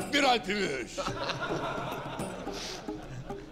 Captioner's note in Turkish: Gülme sesleri